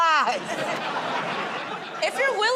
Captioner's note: laughter